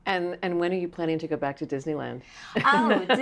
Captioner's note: laughs